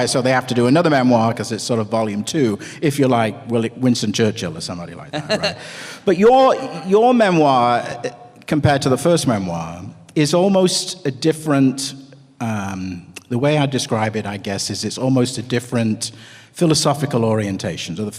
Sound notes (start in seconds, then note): 5.1 ALAN laughs